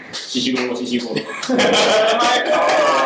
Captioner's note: applause sounds